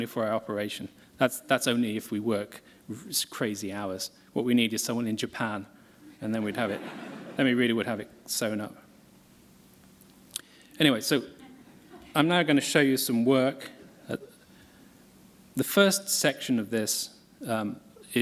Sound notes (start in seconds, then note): 11.4 laughter